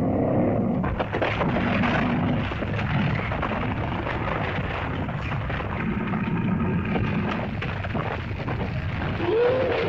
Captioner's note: lizard growls; rumbling sound; splitting sound; lizard bellows